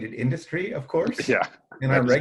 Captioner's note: laughs